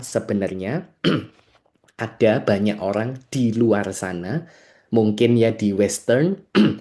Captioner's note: berdehem; berdehem